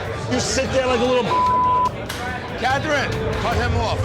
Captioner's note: beep